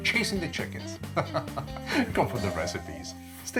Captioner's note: laughing